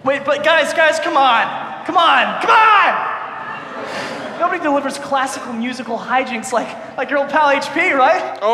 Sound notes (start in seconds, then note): 3.2 audience laughs